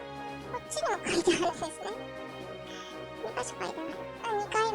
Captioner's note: laughs